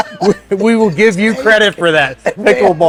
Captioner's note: laughs